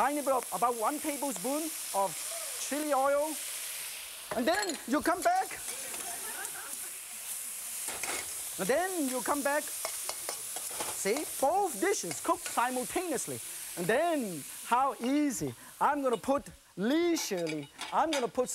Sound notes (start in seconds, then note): 5.9 laughter; 6.3 crowd